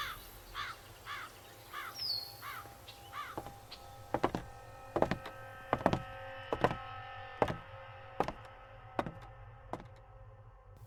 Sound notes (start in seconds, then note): 0.0 birdsong and crows; 6.5 footsteps and ominous music